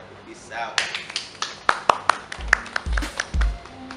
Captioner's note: claps